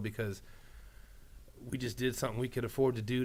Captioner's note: none